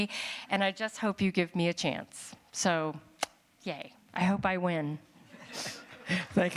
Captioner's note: laughter